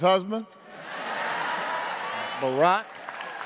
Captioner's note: attendees laughing